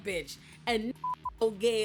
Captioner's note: beep